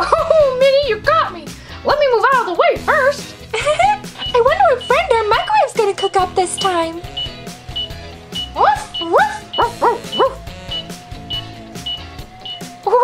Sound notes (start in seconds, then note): 3.5 chuckles; 8.3 timer beeps; 8.6 dogs barking; 11.8 timer beeps